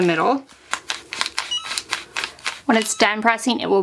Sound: hat press beeps

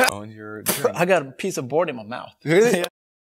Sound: spits

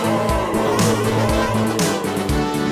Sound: Glass Joe noises

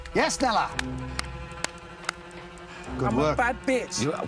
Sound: clap

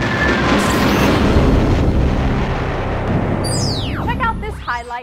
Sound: sound Effects

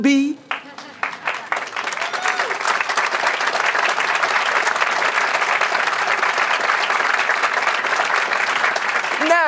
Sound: applause

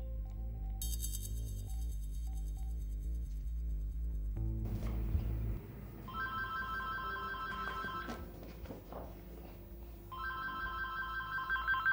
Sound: phone ringing

